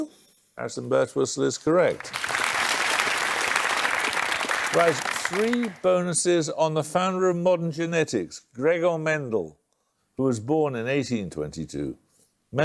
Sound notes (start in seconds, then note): 1.8 applause